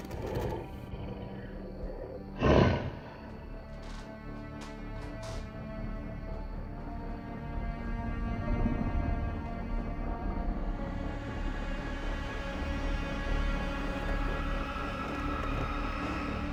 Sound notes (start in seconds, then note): 2.4 werewolf growls; 5.3 solemn music continues